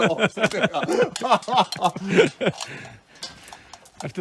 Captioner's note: laughs